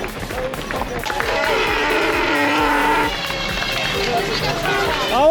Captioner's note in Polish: Aplauz